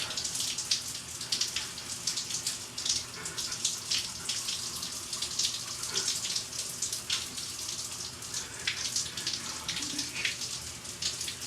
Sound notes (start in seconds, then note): 3.4 sobs